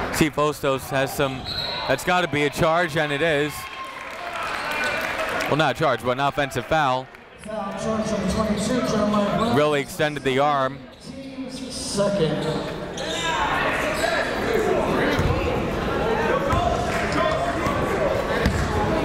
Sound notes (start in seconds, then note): 1.4 whistle; 12.8 chatter